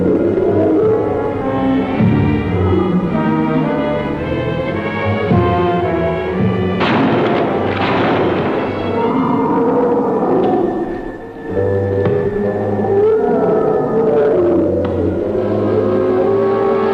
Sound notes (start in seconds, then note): 6.8 gunshots firing